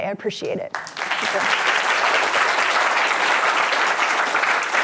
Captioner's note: audience clapping